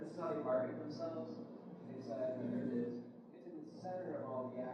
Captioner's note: mumbles off mic